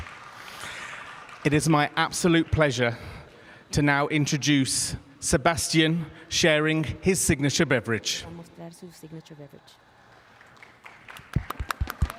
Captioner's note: cheers and applause